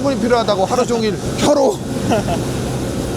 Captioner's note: laughs